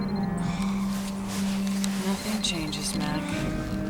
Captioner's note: phone ringing; sighing